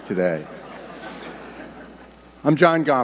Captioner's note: audience laughing